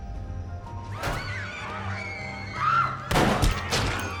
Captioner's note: screaming